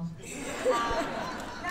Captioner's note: laughter